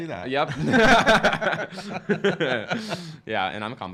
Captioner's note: laughing